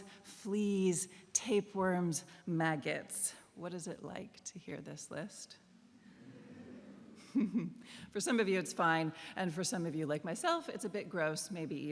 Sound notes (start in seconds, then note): 6.8 laughter